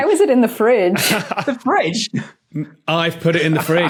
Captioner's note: laughs